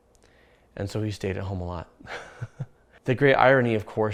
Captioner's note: laughs